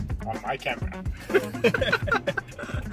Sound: laughs

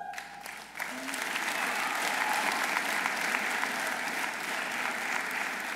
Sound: audience applauding

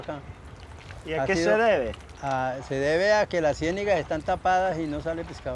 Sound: speaking in foreign language

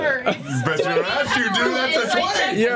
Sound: laughs

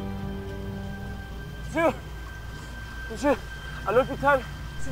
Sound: speaking in French

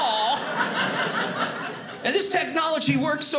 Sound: audience laughing

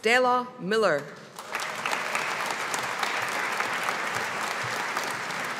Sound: audience applauding

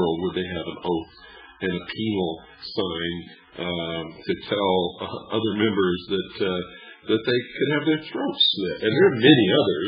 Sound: laughs

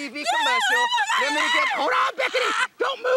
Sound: screaming

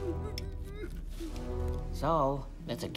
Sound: whimpering

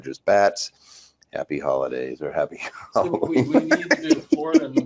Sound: laughing

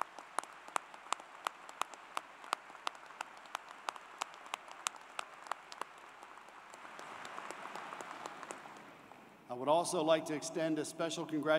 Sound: applause

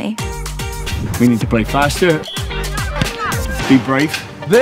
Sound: whistle blows

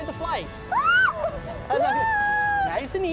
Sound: yelling

